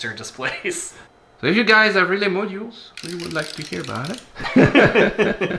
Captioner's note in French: rires